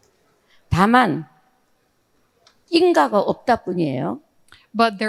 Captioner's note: speaking in foreign language